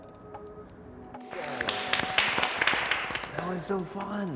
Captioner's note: clapping